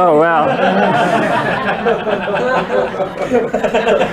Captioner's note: laughter